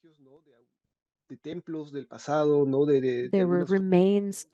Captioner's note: speaking spanish